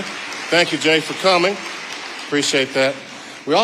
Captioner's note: audience applauding